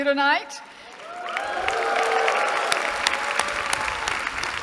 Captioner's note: cheering